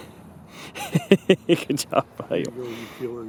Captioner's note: laughing